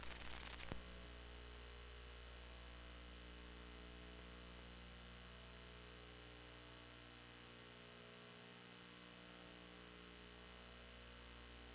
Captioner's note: 60hz buzz